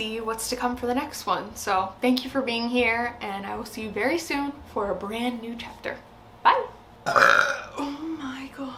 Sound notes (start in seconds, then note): 7.0 belches